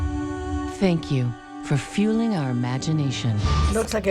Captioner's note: gentle music; female voice-over